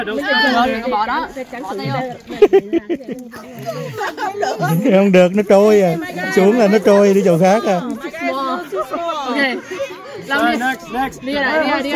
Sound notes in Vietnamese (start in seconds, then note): 2.2 Tiếng cười